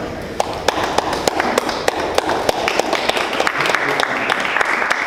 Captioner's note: audience applause